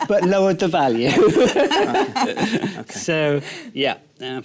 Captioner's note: laughter